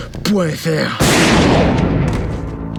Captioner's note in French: coup de feu